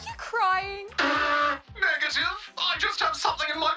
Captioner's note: blows nose